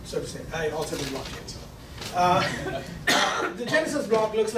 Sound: laughing

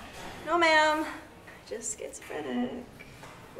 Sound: under her breath

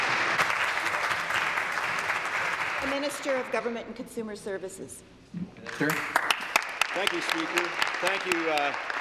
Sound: applause

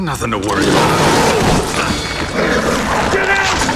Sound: ferocious growling

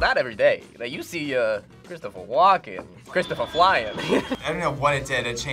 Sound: chuckles

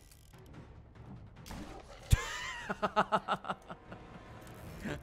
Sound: laughs

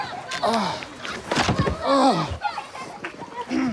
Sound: hard impact, Trevor groans; pool cover squeaks

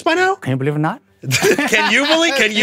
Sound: both laugh

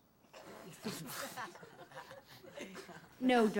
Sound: class laughs

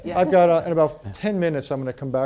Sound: laughter

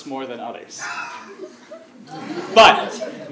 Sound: laugh

